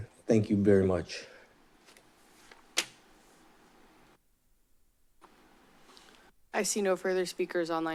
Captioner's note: silence